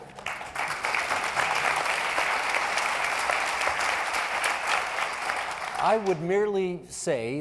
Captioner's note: applauding